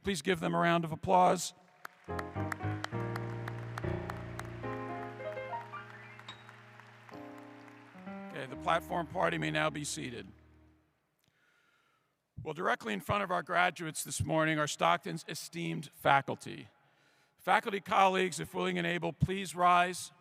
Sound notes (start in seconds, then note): 3.2 applause